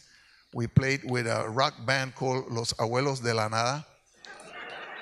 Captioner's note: speaks in Spanish; speaks in Spanish; audience laughs